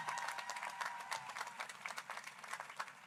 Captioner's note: applause